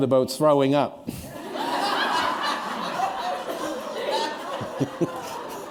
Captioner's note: laughter